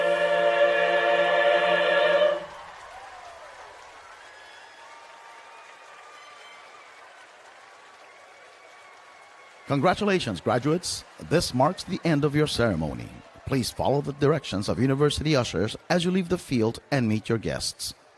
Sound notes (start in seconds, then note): 2.9 applause and Cheering